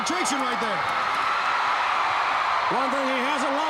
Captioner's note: crowd cheering